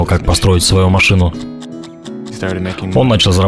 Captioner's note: clock ticks